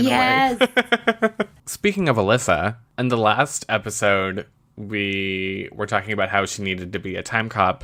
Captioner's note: laughs